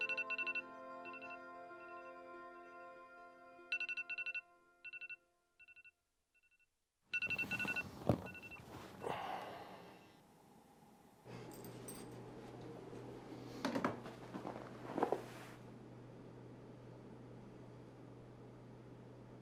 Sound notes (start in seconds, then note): 0.0 alarm beeping